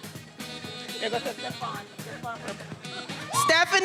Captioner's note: faculty member speaking faintly